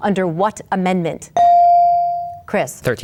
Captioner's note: bell dings